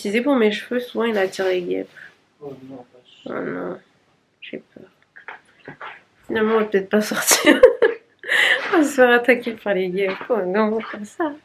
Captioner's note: laughs